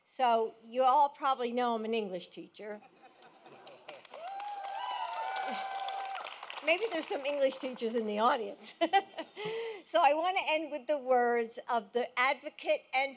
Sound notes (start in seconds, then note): 2.8 laughter; 3.5 applause